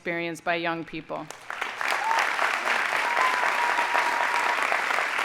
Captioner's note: audience applauding